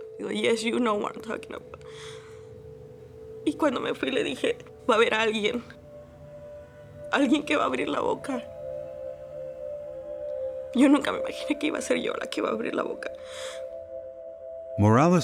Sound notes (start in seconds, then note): 3.0 speaking Spanish